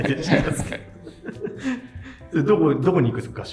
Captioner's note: laughing